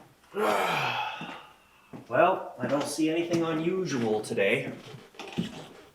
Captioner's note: sighs